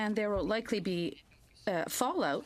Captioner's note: speaking French